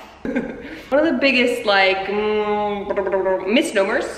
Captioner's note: thinking noises